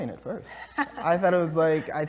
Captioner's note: laugh